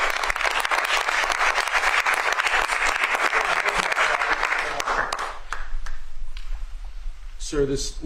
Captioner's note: applause